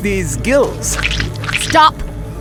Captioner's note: squish, squish